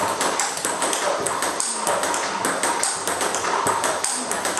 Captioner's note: ball ping pong hitting continues